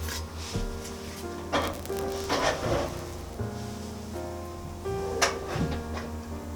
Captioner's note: heated oven